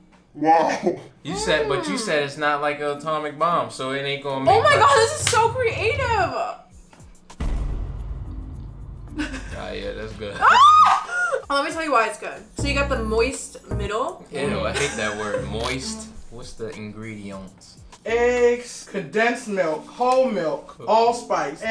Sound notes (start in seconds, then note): 5.2 claps; 7.3 dramatic bang; 8.0 laughs; 10.4 cheers; 14.6 laughs